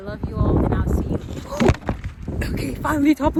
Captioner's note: camera falls